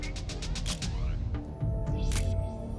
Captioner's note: camera shutter click